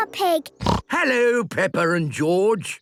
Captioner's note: snorts